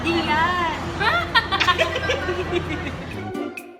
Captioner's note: laughs